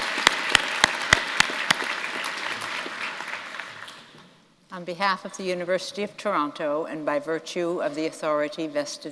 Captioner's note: applause